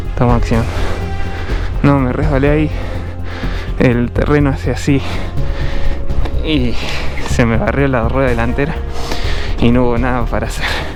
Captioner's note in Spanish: resoplido